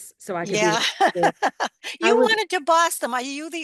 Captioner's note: laughs